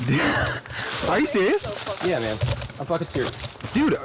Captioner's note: laughs